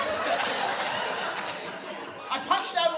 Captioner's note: laughter